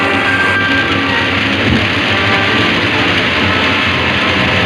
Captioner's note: water crashing